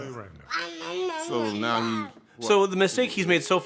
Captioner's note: gurgling